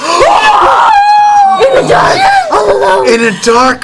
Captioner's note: yelling